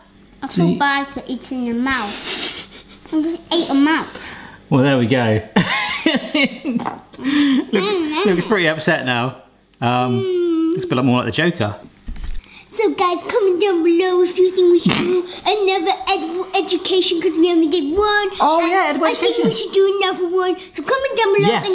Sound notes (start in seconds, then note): 2.0 laughing; 6.5 laughing